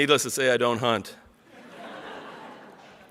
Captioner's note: audience laughs